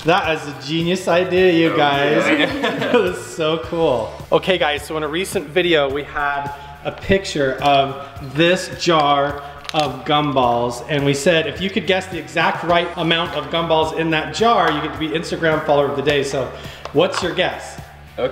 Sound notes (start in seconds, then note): 1.6 chuckles